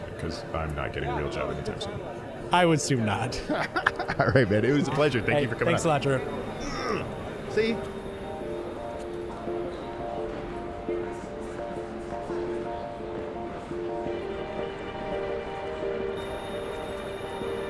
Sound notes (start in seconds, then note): 3.3 laughing; 8.6 chill ambient synth music